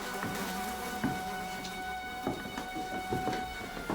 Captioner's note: flies buzzing